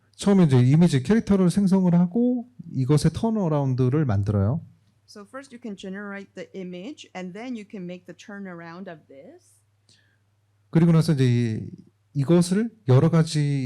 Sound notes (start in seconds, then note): 0.1 speaking korean; 11.9 speaking korean